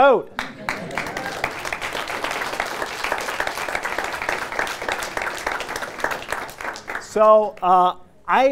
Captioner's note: applause